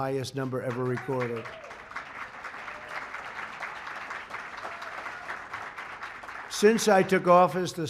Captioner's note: applause